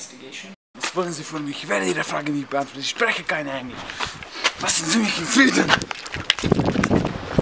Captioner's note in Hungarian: Német zagyvaság